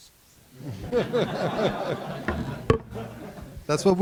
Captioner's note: laughter